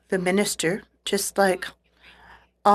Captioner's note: speaking French